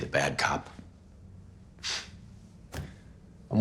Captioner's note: scoffs